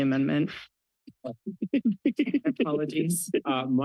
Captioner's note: laughs